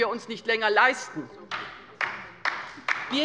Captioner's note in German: Beifall bei der LINKEN